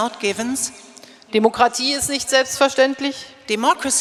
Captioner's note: speaking in German